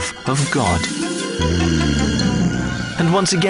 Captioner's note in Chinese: 耶穌打鼻鼾